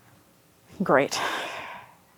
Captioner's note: sighs